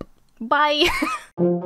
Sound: laughs; whimsical music

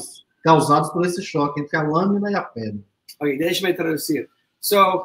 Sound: speaks portuguese

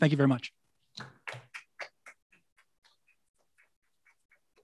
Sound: clapping

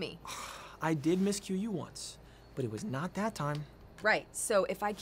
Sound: sighs

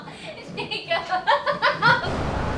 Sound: emma laughing

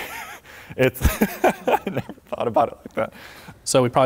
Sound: laughs

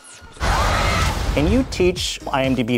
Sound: scream

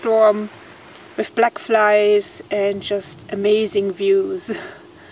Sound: laughs

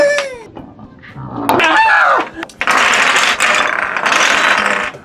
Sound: high pitched scream replays

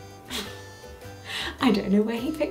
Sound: laughing

